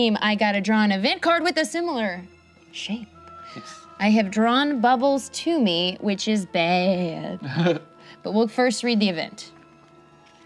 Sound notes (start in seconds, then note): 7.4 laughs